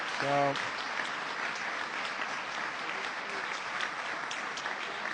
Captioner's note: applause